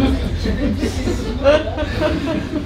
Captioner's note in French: MDR les rires forcés